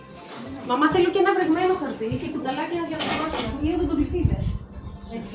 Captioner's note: speaking greek